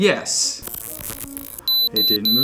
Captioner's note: digital buzzing and beeping